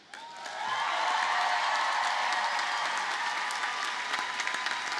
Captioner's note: audience cheers and applauds